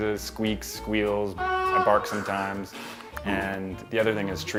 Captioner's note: squeals